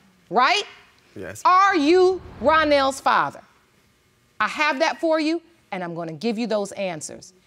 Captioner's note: none